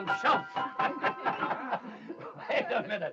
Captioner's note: laughing